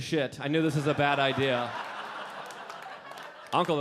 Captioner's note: audience laughing